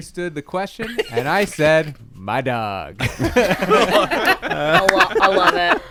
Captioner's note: laughter